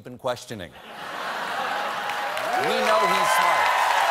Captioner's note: laughter; cheers; applause